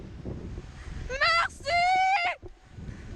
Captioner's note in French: en criant